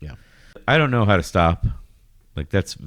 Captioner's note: uh